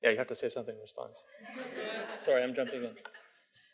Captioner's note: audience laughs